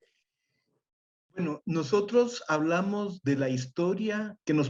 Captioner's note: speaks Spanish